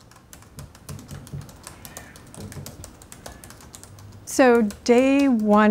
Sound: typing

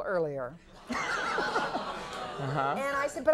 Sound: audience laughing

